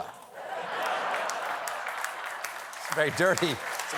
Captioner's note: laughter; applause